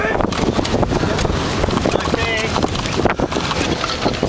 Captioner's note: yelling